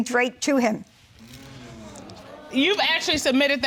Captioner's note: audience sighing